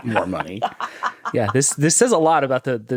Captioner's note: laughing